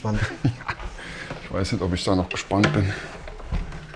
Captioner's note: laughs